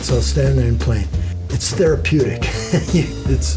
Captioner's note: laughs